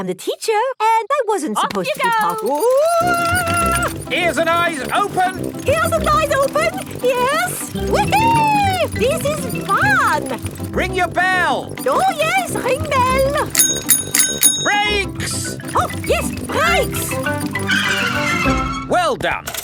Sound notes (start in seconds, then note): 11.7 rings bell; 17.9 tires screech